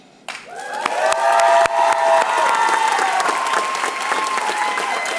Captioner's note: applause